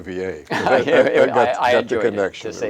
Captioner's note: chuckles